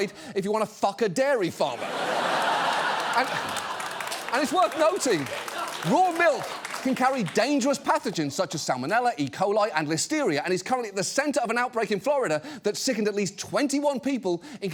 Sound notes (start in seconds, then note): 1.7 studio audience laughs, applauds